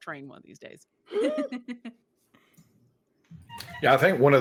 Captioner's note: giggles